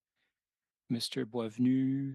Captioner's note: speaking French